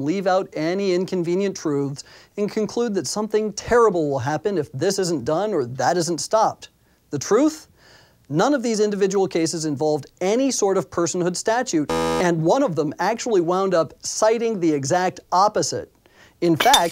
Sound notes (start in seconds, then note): 11.8 buzzer; 16.6 breaking glass